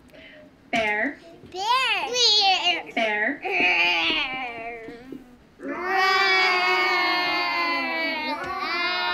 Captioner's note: children imitate bear noise